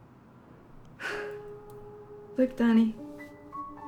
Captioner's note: sighing